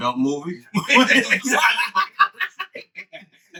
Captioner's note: all Laughing